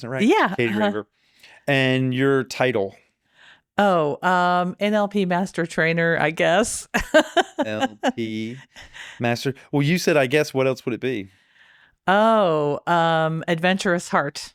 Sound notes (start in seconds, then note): 7.0 laughing